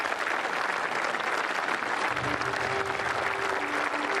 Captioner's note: applause